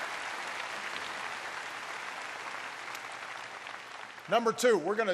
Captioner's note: applause